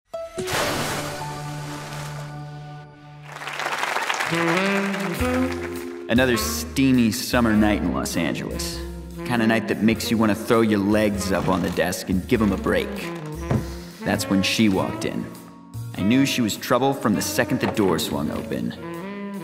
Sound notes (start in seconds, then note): 3.2 audience applause; 4.2 slow jazz